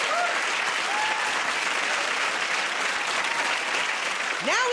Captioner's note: applause